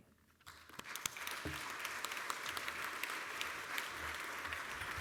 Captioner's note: applause